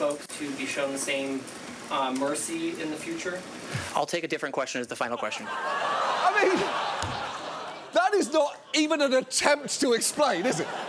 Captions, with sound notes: I'll take a different question as the final question. -I mean... -(STUDIO AUDIENCE LAUGHING) That is not even an attempt to explain, is it?